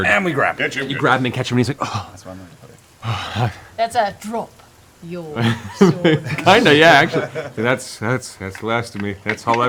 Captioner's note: breathing hard